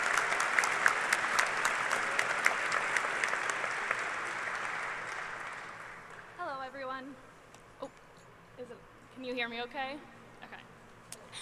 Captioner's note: applause